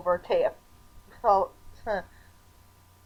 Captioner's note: stammering